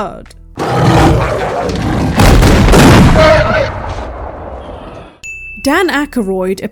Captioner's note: bird roars + gunfire